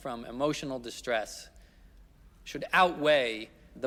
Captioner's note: none